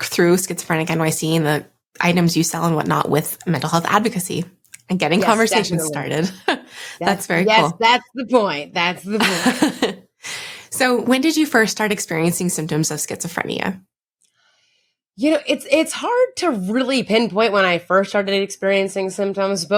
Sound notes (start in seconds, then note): 5.2 chuckles; 9.1 laughing